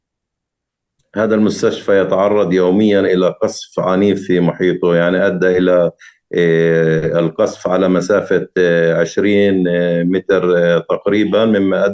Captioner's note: speaking arabic